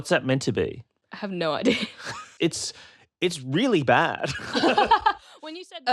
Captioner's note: laughs